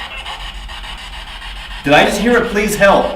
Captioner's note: spirit box talking